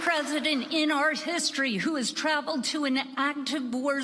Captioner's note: applause